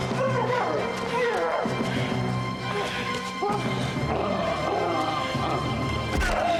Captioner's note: growling